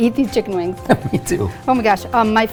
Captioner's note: chuckles